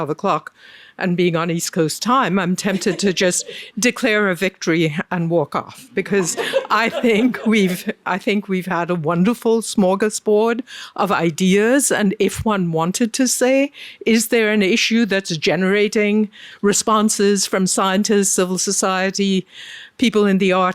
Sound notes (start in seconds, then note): 6.1 laughs